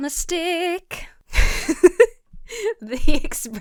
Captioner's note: laughs